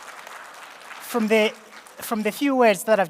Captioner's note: applause